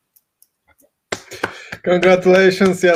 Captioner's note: clapping